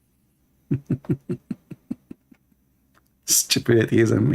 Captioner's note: Ketawa